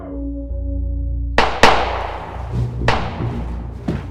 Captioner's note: gun firing